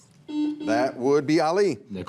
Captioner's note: buzzer rings